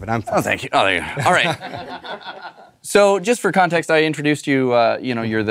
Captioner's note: laugh